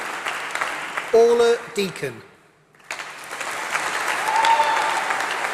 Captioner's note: applause